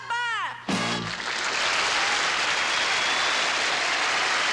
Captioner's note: cheering